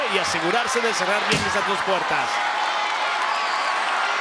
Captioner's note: door slams